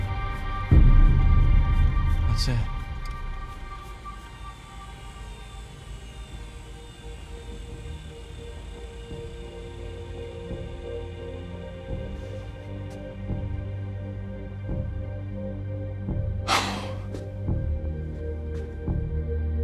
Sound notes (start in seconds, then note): 3.9 machines whirring; 11.9 tense music; 16.4 Chuck sighing